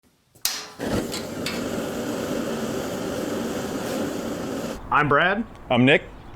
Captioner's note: propane burner sound